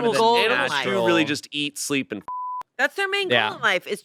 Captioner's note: beep